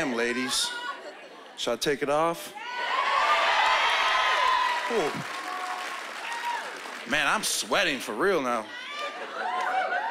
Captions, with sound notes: Damn, ladies. Should I take it off? (cheering) Ooh... Man, I'm sweating, for real now.